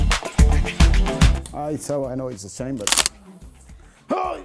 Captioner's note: cracking sound, groan